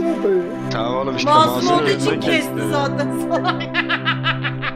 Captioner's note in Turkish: gülme